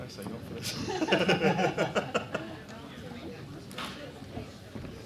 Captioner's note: laughter